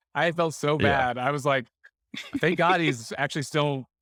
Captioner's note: laughing